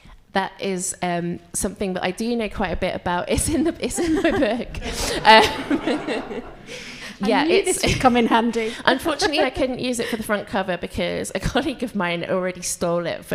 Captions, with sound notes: - That is something that I do know quite a bit about. It's in my book. (laughs) (audience laughs) - I knew this would come in handy. - Unfortunately I couldn't use it for the front cover because a colleague of mine already stole it